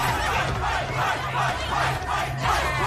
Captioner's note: students chanting, "Fight!"